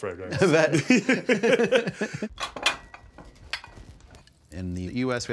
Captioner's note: both laughing